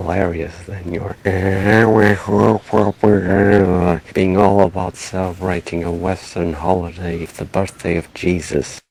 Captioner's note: mocking voice